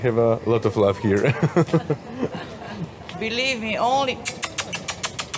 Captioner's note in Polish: śmiech